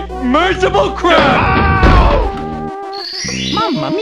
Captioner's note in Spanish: mario se golpea